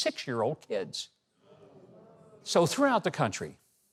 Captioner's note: audience murmurs